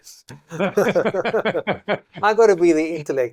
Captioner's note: laughter